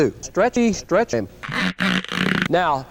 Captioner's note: uncomfy stretching noises